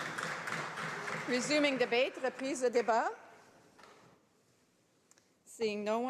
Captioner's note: applause